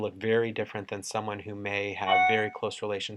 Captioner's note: computer chimes